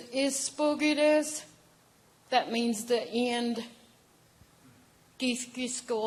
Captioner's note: speaking in native language